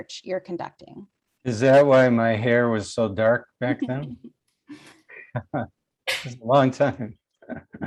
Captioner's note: laughs